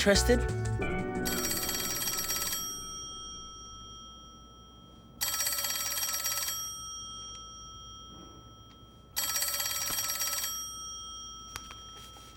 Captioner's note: phone ringing